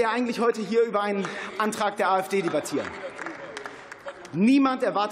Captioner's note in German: Beifall